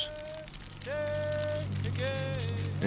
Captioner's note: chanting continues